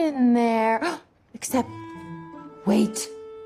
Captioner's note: gasps